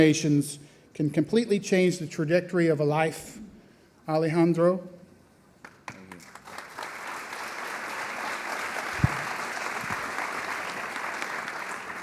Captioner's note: applause